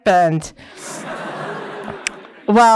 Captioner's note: laughter